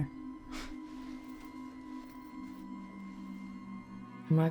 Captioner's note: Claire scoffs